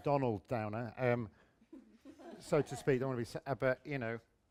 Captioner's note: laughter